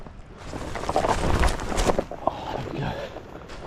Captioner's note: object shuffling